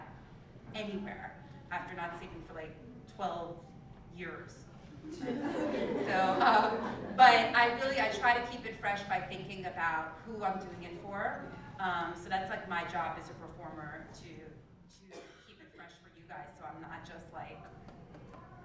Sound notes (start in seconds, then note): 5.1 laugh